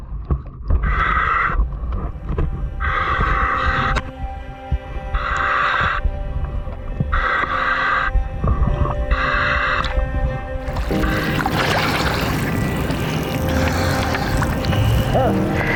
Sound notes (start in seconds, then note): 10.6 water splashing